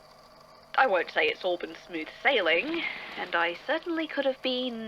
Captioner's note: feathers ruffle